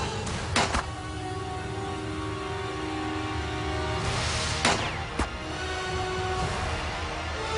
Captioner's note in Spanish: Disparos